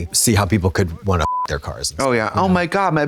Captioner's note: beep